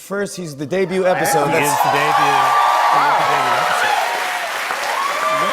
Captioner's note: cheers and applause